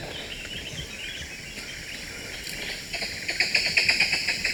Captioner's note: birds calling